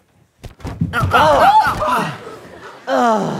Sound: surprised yells

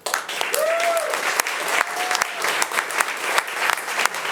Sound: audience applauding

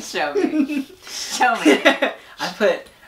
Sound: laughs

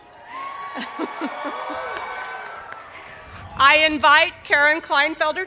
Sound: cheers and applause

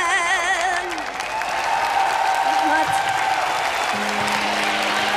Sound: applause

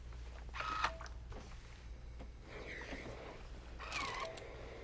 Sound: iron whirring

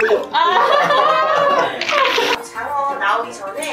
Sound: laughing

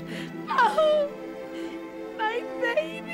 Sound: sobbing

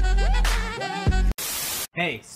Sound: TV Static

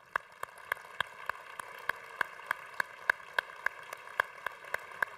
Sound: congregation applauding

